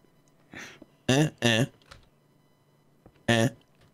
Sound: block placing noises

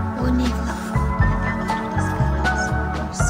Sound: whispering

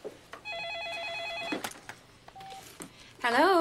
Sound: phone rings

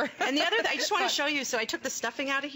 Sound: laughter

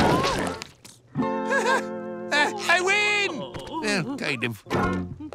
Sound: chuckles

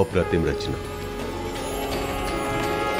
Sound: conch blows

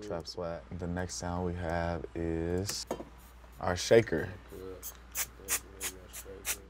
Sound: sprays

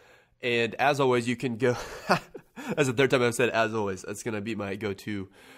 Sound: laughs

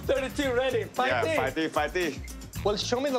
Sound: speaking Cantonese

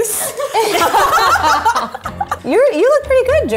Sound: laughs

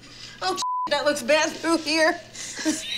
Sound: beep

